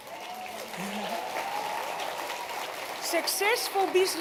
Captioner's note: cheering, applause